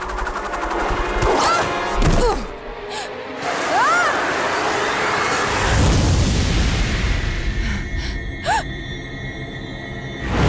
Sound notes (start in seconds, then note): 0.9 grunting